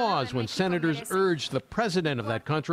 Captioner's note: speaking in spanish